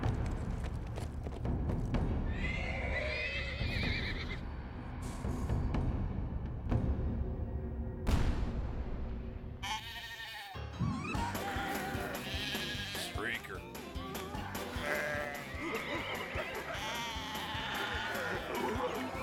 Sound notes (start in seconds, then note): 5.4 horses neighing; 7.7 snorting; 11.4 sheep bleats; 13.6 wacky music; 17.4 grunting laughter